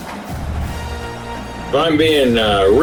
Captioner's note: crowd Noises